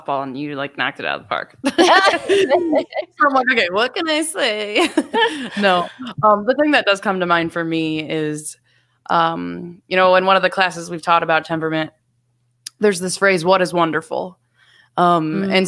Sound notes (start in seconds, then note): 1.6 all laughing; 5.1 laughs